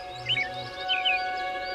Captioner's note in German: Vogelzwitschern